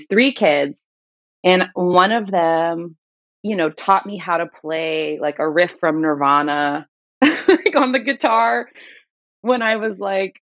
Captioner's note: laughter